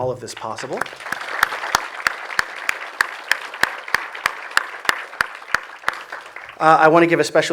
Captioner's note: audience applause